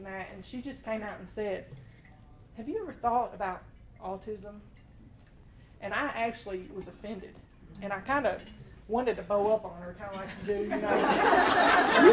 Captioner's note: laughter